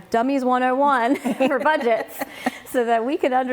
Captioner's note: chuckling